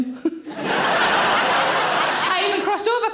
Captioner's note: audience laughing